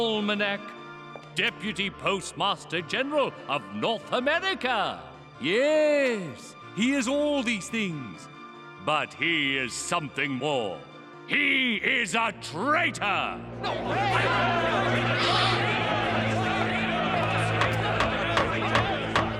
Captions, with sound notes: DEPUTY POSTMASTER GENERAL OF NORTH AMERICA. YES, HE IS ALL THESE THINGS, BUT HE IS SOMETHING MORE... HE IS A TRAITOR! [CROWD YELLS "TRAITOR"] [GAVEL BANGS]